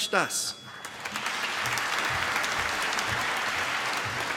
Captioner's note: applause